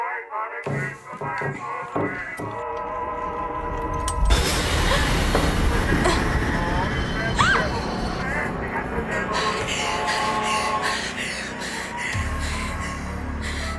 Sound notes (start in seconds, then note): 7.3 Riley shrieks; 9.5 breathing heavily